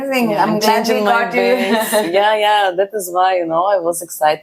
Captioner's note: laughs